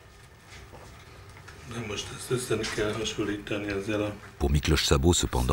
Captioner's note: French spoken audio